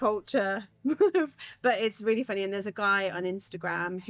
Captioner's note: laughs